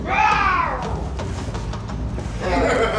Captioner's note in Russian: гогот